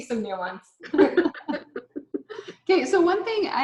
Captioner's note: all laughing